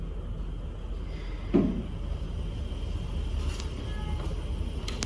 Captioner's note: nighttime sounds